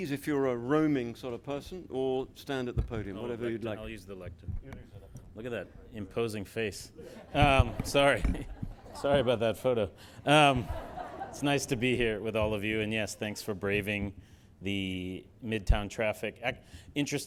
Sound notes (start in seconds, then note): 10.3 audience laughing